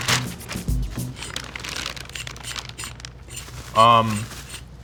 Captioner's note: plastic crinkling